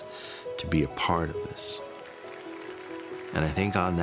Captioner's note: crowd applauds